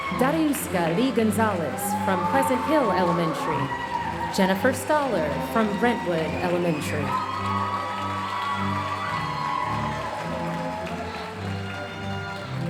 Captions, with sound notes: Dariuska Li-Gonzalez from Pleasant Hill Elementary, Jennifer Staller from Brentwood Elementary. (audience cheering and applauding)